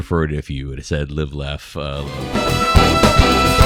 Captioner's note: uh